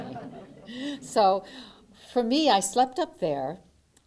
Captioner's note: laughter